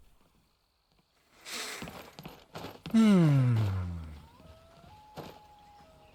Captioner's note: deep breath